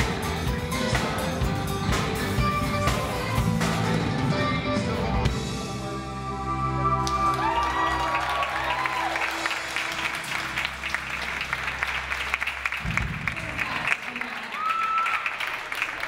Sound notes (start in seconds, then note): 7.5 audience applauds